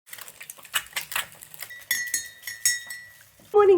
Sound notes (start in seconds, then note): 0.0 eggs sizzling; 1.5 teaspoon clinking